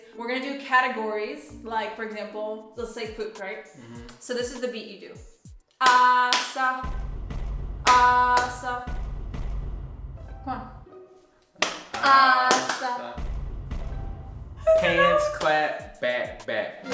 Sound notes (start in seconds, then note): 7.0 boom boom; 8.8 boom boom; 13.2 boom boom